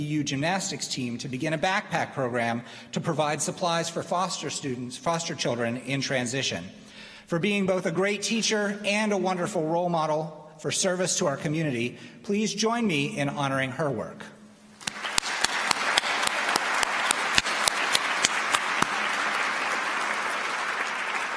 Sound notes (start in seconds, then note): 14.8 applause